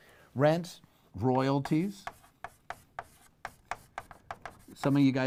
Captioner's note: pen knocking